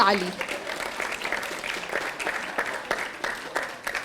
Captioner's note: audience applauding